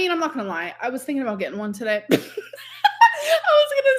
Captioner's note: laughs